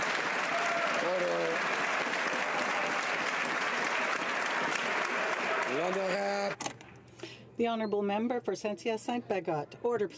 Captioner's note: some Applause